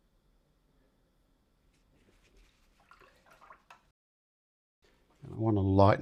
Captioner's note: silence